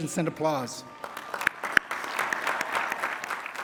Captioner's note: applause